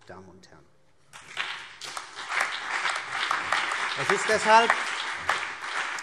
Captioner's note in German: Beifall CDU und BÜNDNIS 90/DIE GRÜNEN